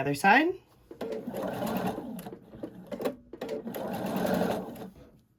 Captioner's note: machine whirring